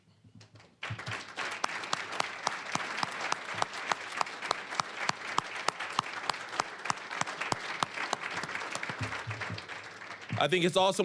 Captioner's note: applause